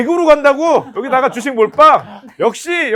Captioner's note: laughter